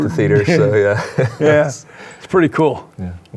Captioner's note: laughs